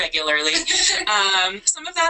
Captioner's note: laughter